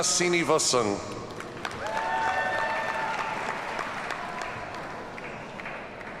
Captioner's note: audience cheers and applauds